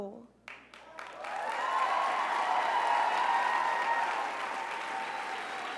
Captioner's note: crowd cheers